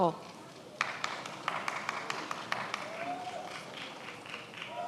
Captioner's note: many applauding